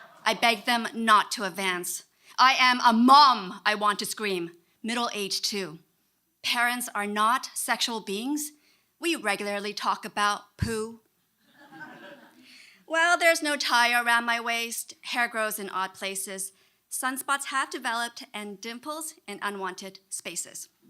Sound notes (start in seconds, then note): 11.5 audience laughing